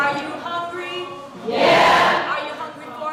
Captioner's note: crowd Yells; yelling